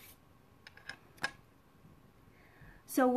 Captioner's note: hands rubbing; clattering